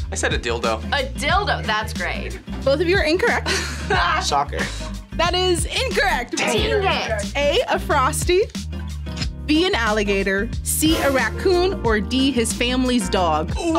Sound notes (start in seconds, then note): 3.2 laughs